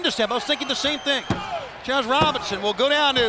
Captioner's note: countdown thudding